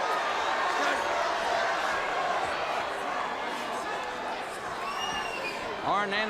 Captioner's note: crowd cheering